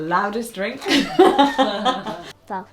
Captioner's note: both laughing